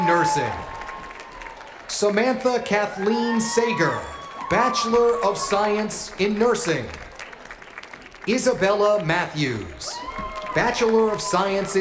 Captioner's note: cheers and applause